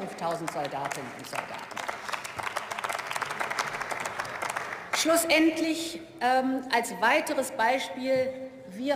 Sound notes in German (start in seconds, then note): 1.6 Beifall